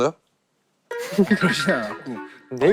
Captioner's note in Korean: 하핫